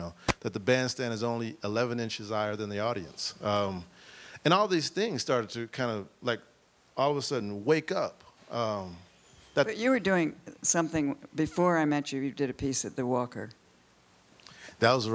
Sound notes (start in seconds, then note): none